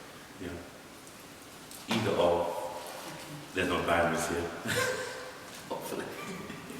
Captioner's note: laughs